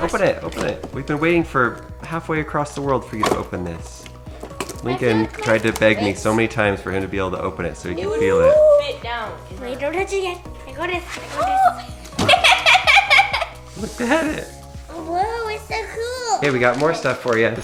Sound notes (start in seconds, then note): 12.1 laughter